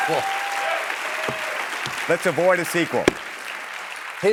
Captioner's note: cheering and applause